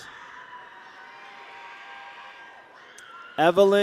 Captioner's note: people cheer